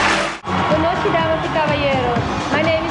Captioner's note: speaking foreign language